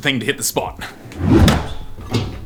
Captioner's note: whooshing